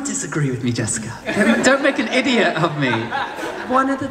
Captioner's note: audience laughs